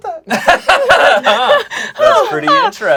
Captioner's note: everyone laughs